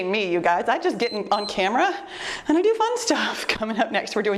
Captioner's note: timer beeps